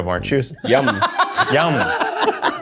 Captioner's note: all laughing